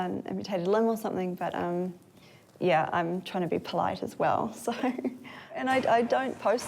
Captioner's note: chuckles